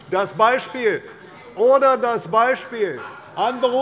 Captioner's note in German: Zurufe von der SPD